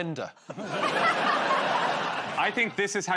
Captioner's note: laughter